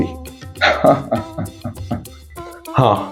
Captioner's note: laughs